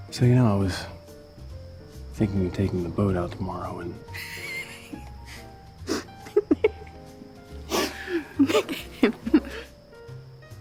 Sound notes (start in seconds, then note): 4.3 laughing